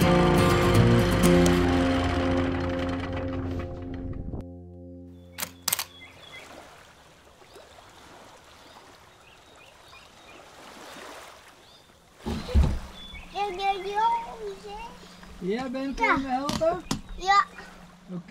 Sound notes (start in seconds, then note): 0.0 lighthearted music; 6.4 water lapping; 13.5 speaks Dutch